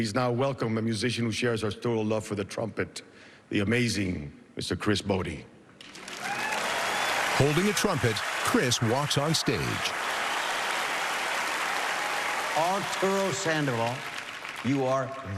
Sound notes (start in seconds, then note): 5.7 cheering and applause